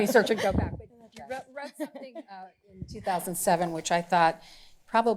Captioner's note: laughing